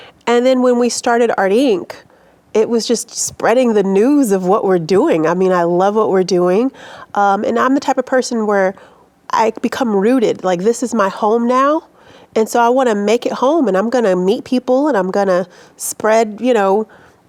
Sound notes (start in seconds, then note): none